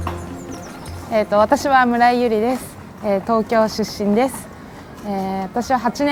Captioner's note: speaking in foreign language